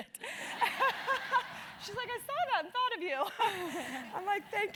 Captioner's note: laugh